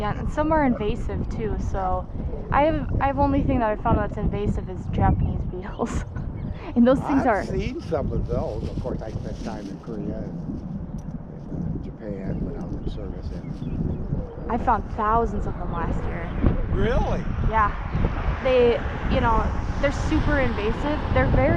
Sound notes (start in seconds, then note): 0.1 laughs; 6.6 laughs